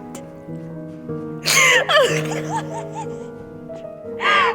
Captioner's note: crying